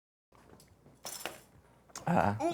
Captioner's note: ice clinks